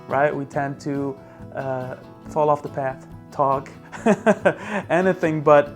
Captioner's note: laughs